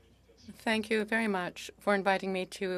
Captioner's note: speaking French